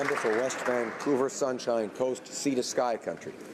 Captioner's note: applause